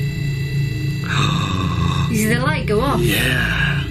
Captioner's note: gasps